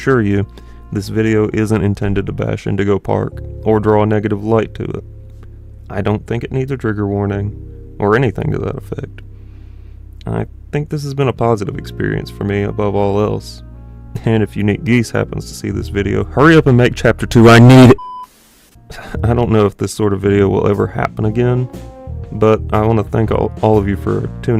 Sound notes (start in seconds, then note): 18.2 static cut